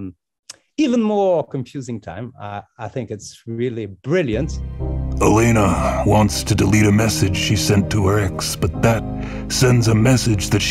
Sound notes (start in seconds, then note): 4.4 tense ominous music; 5.4 voiceover